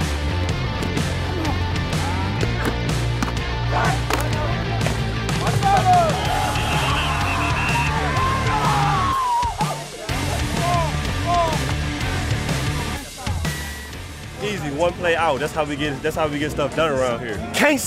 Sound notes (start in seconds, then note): 5.3 players yelling; 6.1 whistles blowing